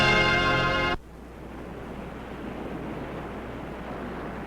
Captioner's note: waves crashing